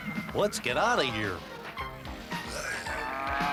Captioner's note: murmuring